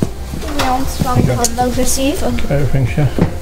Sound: speaking faintly

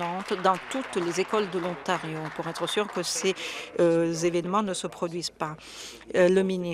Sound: some Applause

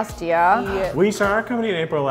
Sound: gasps

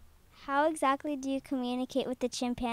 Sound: voiceover

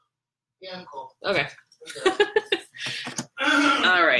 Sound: laughs

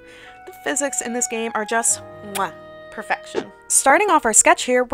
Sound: kiss

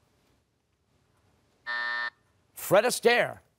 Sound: buzzer

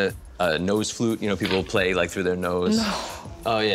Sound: chuckling

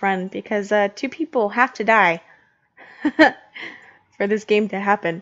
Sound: laughs

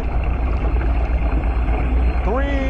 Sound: tense music; water splashing

